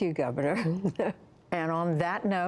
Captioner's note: laughter